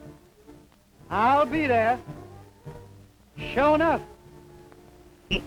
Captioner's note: laughs